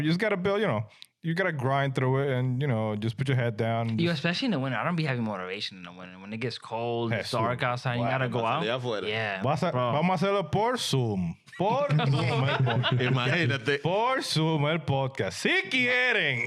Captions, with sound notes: You just gotta build, you know, you gotta grind through it and you know, just put your head down. You especially in the winter. I don't be having more duration in the winter. When it gets cold, it's dark outside. You gotta go out. Yeah. (Speaking In Foreign Language) (Laughing) (Speaking In Foreign Language)